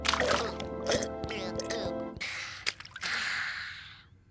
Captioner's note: gulping; sighing; burping